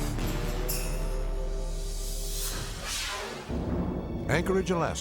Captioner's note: tense music; video swooshing